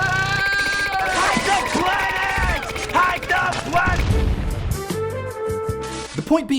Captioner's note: gunshots and yelling